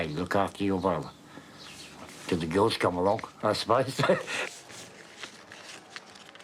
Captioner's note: laughs